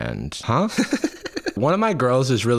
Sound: laughs

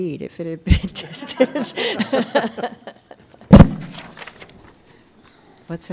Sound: laughter

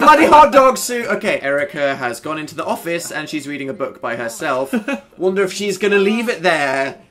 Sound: laughs

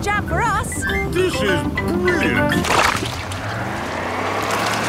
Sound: sloshing, tires whirring

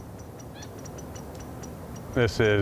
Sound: birds chirping

